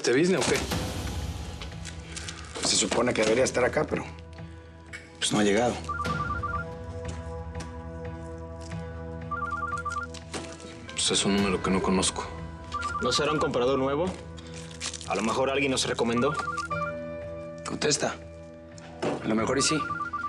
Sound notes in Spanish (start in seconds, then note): 5.7 suena celular